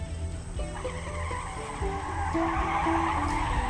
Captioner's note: tires squealing